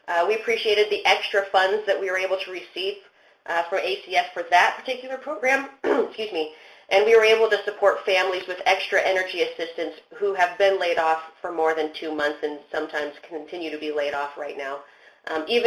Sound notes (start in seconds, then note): 5.8 clears throats